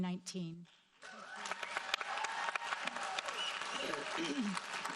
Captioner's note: audience applauding